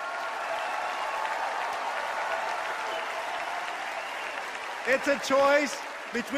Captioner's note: cheers and applause